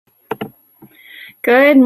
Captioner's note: tapping